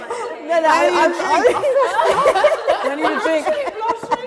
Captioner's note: laughter